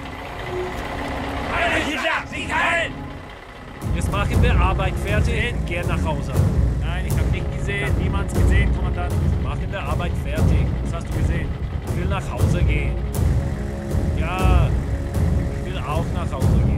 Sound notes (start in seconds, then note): 1.3 speaking foreign language